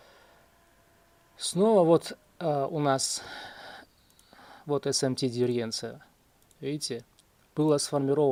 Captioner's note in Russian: вздыхает